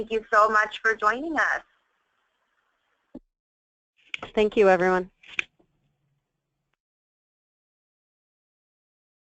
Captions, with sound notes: Thank you so much for joining us. - [Voiceover] Thank you everyone.